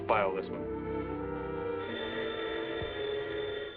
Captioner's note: phone rings